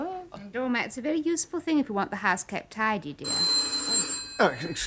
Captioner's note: phone rings